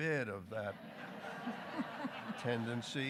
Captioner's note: audience laughing